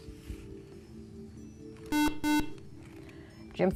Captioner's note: buzzer